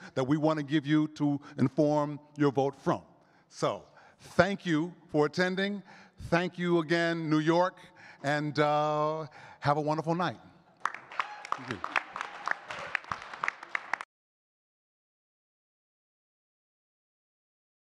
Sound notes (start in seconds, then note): 10.8 all clapping